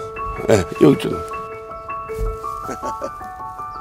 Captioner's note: laughs